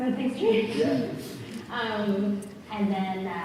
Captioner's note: laughs